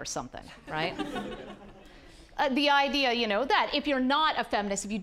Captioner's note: audience laughing